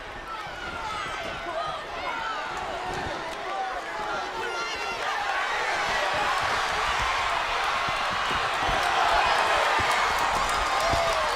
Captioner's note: crowd cheering